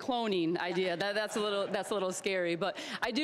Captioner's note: all chuckling